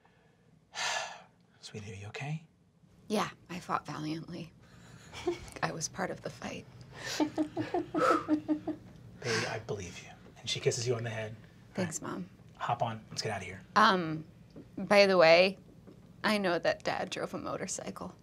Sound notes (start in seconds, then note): 0.8 sighs; 5.1 giggling; 7.5 puffs